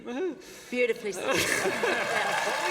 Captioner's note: applause